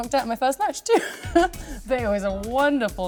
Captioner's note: laughter